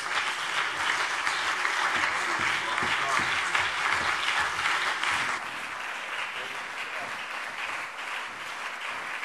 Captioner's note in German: Lang anhaltender Beifall BÜNDNIS 90/DIE GRÜNEN und CDU